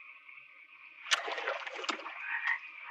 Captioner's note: water splashing; frog croaking